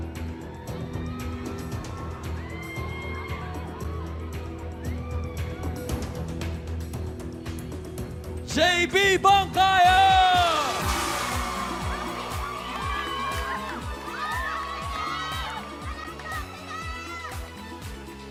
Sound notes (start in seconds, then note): 9.4 cheering, applause; 10.4 theme music playing